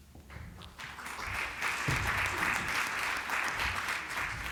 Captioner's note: applause